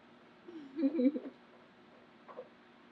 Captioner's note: laughs